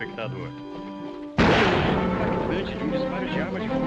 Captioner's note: evocative music; gunshot; tense music